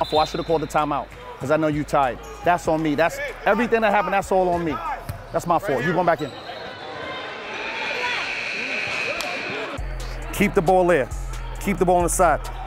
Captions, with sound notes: - I feel I should have called a timeout 'cause I know you tired, that's on me. Everything that happened, that's all on me. That's my fault, you go on back in. (overlapping chattering) (timer buzzes) Keep the ball there, keep the ball on the side.